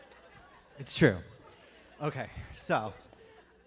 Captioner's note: laughter